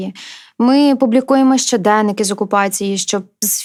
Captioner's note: Russian